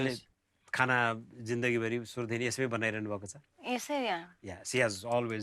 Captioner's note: non-english speech